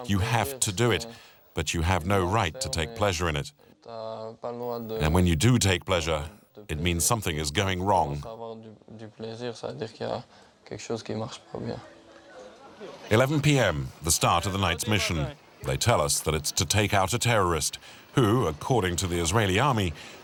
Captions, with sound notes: You have to do it, but you have no right to take pleasure in it. When you do take pleasure, it means something is going wrong. [French spoken audio] It's 11 p.m., the start of the night's mission. They tell us that it's to take out a terrorist who, according to the Israeli Army,